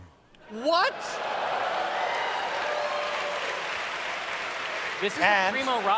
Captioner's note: audience cheers